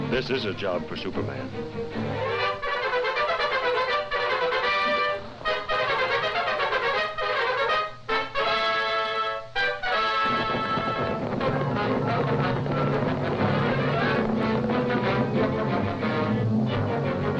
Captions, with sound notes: - This is a job for Superman. (triumphant music) (wings rustling) (light dramatic music)